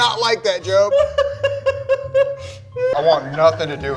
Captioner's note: laughs